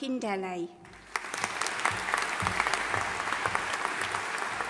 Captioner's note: audience applauding